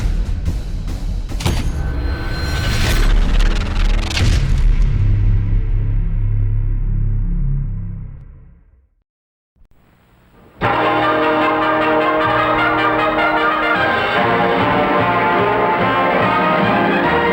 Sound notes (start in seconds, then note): 4.5 exploding; 10.6 epic music; 14.3 cheerful music